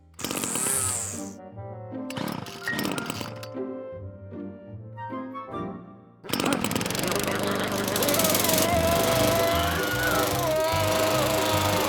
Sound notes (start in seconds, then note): 0.3 string trimmer engine turns; 6.2 lawnmower engine starts; 8.6 screaming